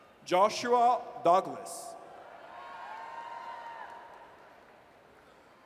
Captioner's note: audience cheers